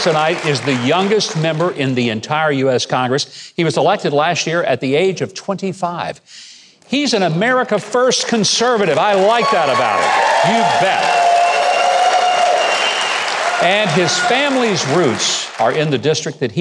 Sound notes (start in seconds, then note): 11.8 audience cheering